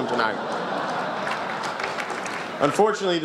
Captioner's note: laughter, applause